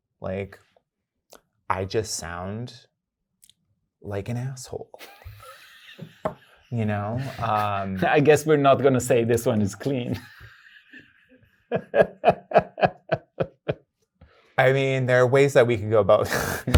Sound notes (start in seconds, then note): 9.5 laughs